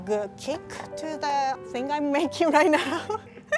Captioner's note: laughing